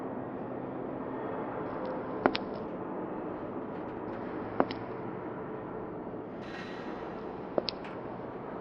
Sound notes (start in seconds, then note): 2.8 slow footsteps